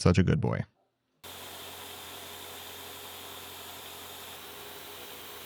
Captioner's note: machinery whirring